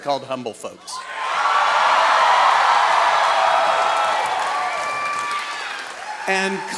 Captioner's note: audience cheering